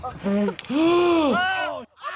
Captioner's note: inhales sharply